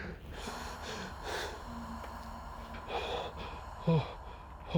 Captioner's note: vocalist panting